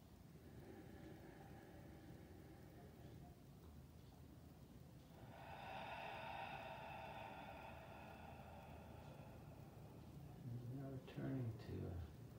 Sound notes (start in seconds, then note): 5.0 exhales